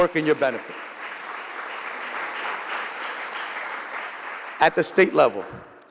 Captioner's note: applause